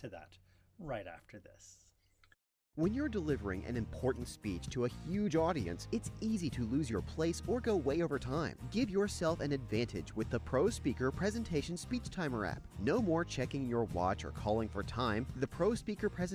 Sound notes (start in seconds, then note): 2.6 voiceover